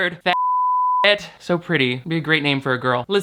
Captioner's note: beep